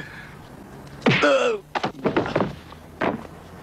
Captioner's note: grunt